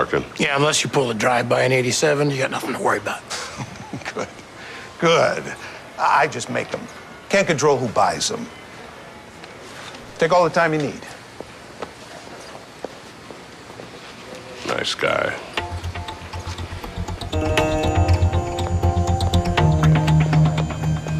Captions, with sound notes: Yeah, unless you pulled a drive-by in '87 you got nothing to worry about. [chuckling] Good, good. I just make them. Can't control who buys them. Take all the time you need. Nice guy.